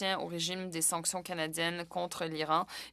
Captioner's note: speaking French